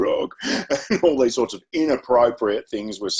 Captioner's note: chuckles